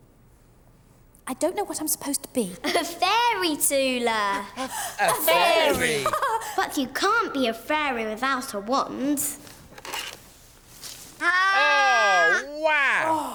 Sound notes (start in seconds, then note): 4.2 laughs; 6.1 Tula laughs